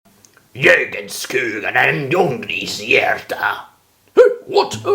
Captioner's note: some swedish gibberish